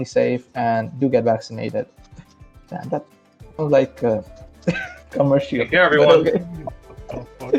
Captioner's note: laugh